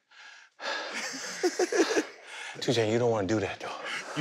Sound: breathing heavily

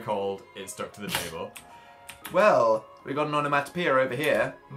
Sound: snorts

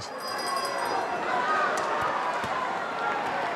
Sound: bell rings

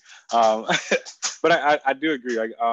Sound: chuckles

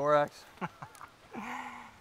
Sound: Scout laughs

